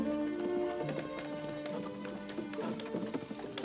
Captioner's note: clip-clop